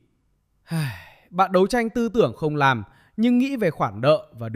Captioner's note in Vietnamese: thở dài